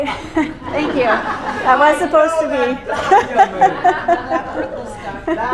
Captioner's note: laughter; more laughter